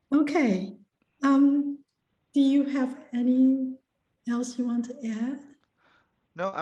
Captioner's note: laughs